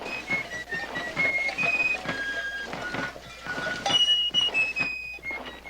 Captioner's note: Aplausos